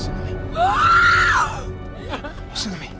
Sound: screams

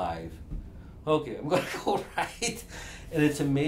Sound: laughs

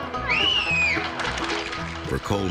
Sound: country music; sharp whistle; crowd applauding

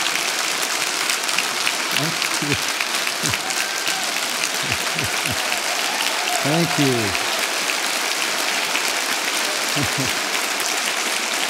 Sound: long applause

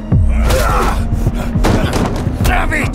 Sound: thwacks

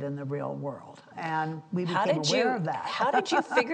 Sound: laughs

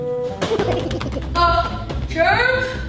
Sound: germ gibbering

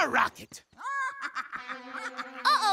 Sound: laughing

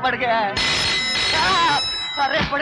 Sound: telephone Ringing

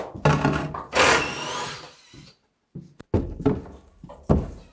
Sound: tool whirring

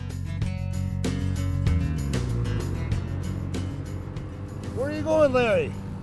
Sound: snowmobile motor

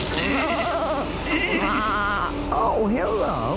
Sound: bleating

